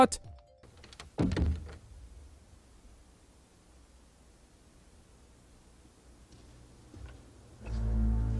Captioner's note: silence